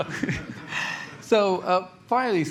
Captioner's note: laughter